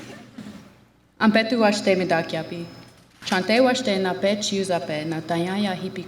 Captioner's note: speaks in Lakota language